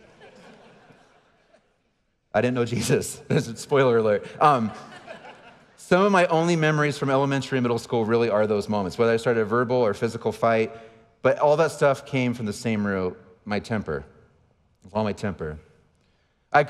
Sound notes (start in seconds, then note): 0.0 audience laughing; 4.2 audience laughing; 4.5 laughing